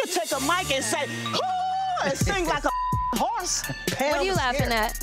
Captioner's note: beep